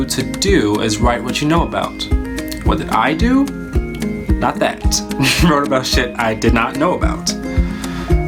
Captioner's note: laughs